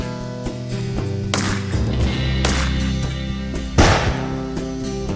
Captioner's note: gun firing